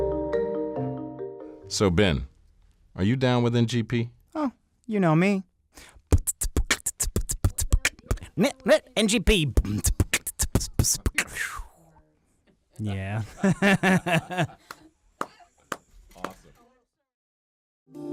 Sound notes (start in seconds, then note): 5.8 beatboxing; 13.2 laughs